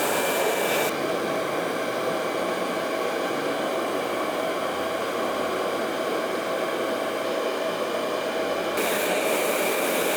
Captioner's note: hair dryer blowing